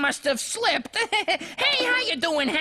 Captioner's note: chudd laughs